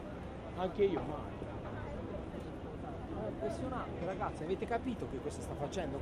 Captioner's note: people speaking in foreign language